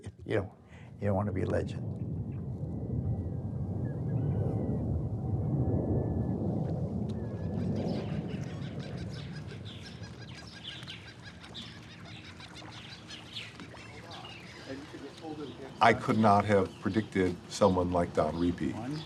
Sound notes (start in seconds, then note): 2.7 plane engine roaring; 7.6 gull crying; 12.2 birds chirping